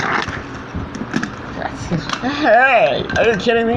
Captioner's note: cars Moving